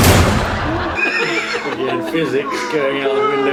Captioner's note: laughs